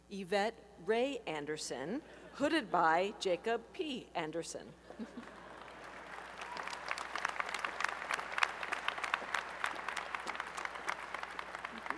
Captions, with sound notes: Yvette Rae Anderson, hooded by Jacob P. Anderson. [laughter] [applause]